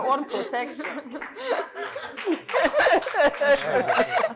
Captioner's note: applause